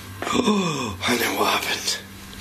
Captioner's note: gasps